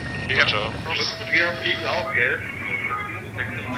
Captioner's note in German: Funksprüche, leises Gespräch